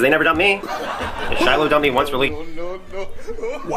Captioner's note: laugh track sound